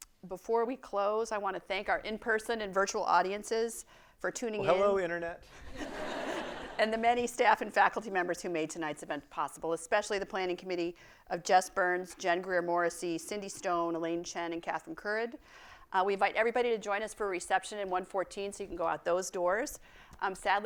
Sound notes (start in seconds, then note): 5.5 audience laughing